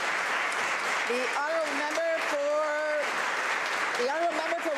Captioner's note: applause